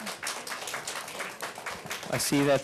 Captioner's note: applause